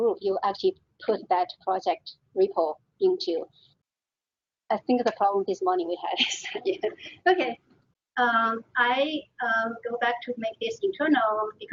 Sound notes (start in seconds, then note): 6.3 laughing